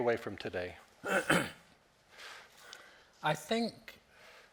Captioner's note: Norman clearing his throat